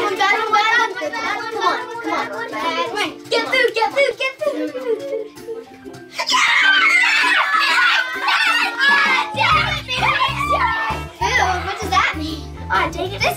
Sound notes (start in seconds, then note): 6.1 boys cheering